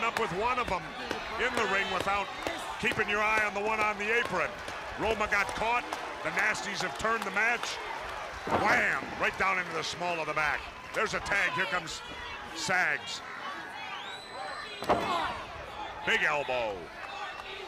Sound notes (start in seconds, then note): 10.5 crowd chatter